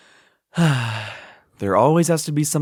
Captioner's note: deep breath; sigh